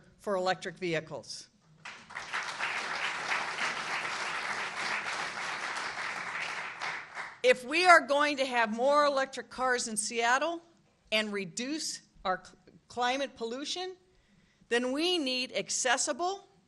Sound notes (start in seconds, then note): 6.4 applause